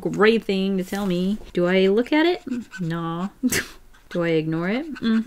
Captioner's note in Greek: Γέλια